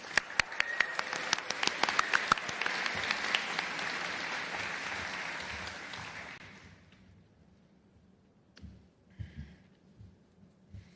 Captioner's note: applause